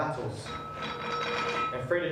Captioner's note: glass lid rattles